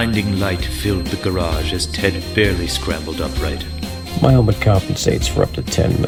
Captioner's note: calmly